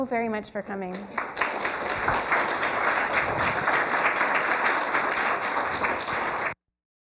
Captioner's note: applause